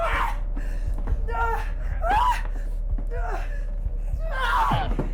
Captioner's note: Sue shrieking; Sue grunts; strike thudding